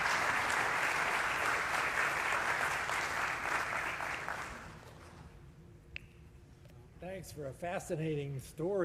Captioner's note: applause